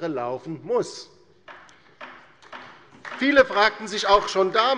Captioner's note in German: Beifall bei der LINKEN